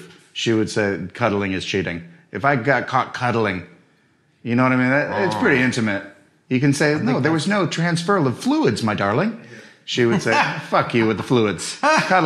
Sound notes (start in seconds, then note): 10.0 laughing